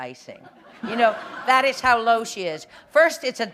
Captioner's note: laughter